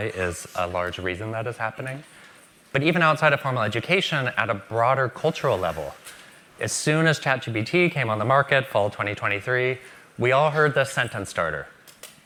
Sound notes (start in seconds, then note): none